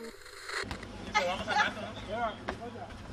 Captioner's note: laughs